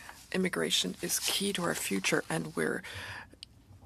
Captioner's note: speaking French